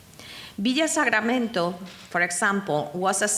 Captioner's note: speaking in foreign language